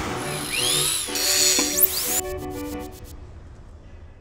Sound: drills whiz

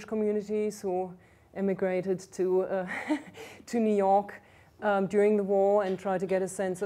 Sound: laughs

